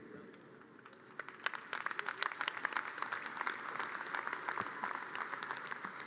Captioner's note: audience cheers and applause